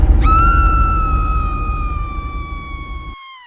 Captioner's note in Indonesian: berteriak